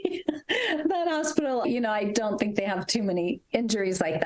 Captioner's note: laughs